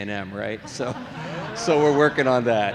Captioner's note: audience laughing